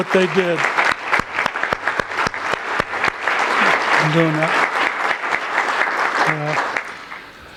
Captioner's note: applause